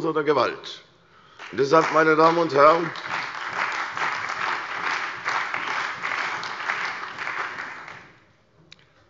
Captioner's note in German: Beifall bei der CDU und dem BÜNDNIS 90/DIE GRÜNEN